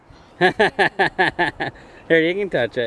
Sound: laughing

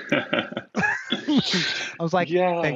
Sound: both laugh

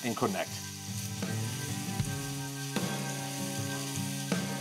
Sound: food sizzling; slow guitar music

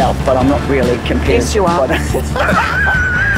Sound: laughs

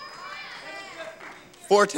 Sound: audience clamoring

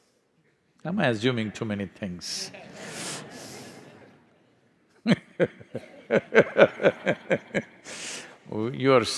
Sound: laughter

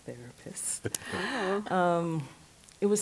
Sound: chuckles

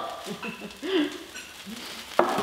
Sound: laughs

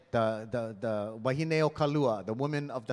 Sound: speaking in Hawaiian

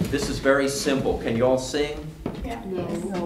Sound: audience mumbles, 'no' 'we can try'

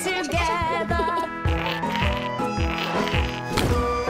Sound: rubbing; poof

